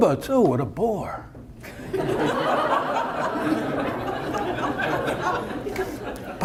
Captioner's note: audience laughter